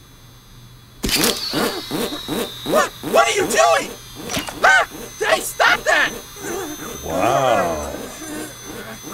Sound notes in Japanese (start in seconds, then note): 1.1 警告音